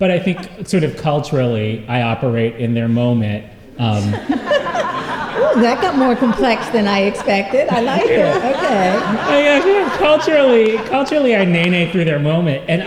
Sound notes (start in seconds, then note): 4.2 laughter; 9.4 laughter